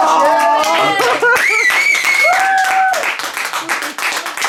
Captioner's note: cheering